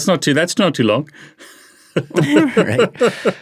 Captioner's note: laughing